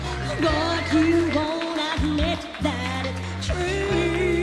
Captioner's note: applause